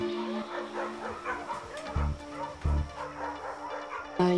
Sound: barking

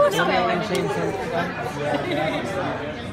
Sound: laughing

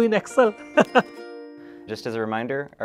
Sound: chuckles

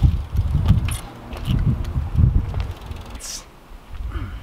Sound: tires squealing; wind blowing; grunting

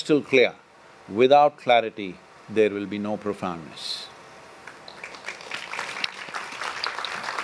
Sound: applause

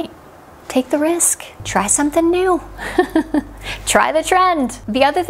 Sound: laughing

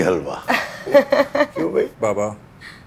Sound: laughs

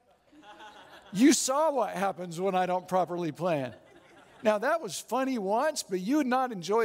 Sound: audience Laughing

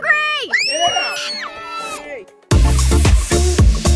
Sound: everyone shouting; dance music

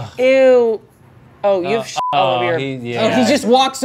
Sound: beep

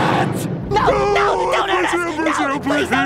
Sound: crying

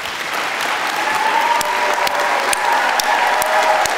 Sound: audience clapping

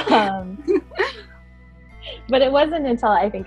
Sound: laughing

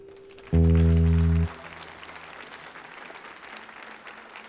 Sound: audience applauds

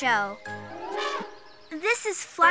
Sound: elephant trumpets

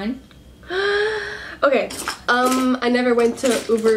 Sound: gasps

